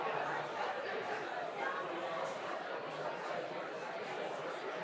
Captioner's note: students chattering